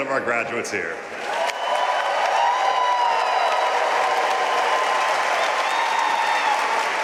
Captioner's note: audience cheering and applauding